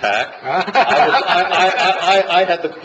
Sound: laughter

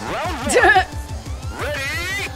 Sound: chuckles

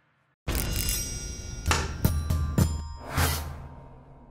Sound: bells ringing

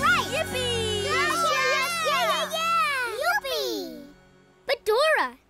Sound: cheering

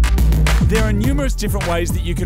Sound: voice over

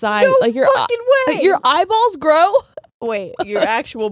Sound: laughs

